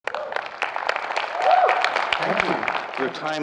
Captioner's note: audience applauding and cheering